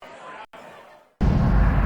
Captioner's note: crowd chatter; gong sound